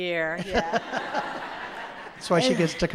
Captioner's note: laughs; audience laughs